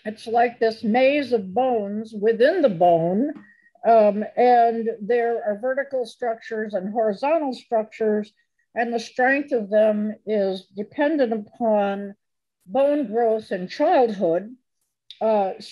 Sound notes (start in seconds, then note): none